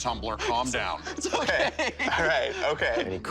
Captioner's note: laughing